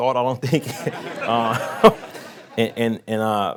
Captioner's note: laughing